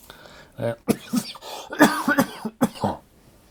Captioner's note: coughing